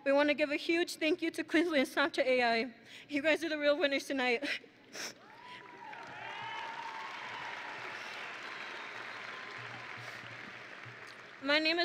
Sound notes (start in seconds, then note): 5.1 chuckles; 5.2 graduates cheering; 7.0 audience and graduates applauding